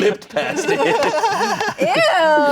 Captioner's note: laughing